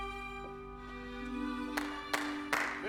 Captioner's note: clapping